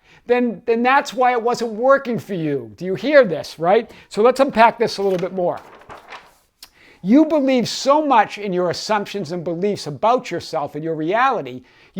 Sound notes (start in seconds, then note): 6.0 paper rustles